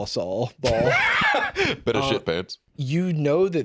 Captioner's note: laughs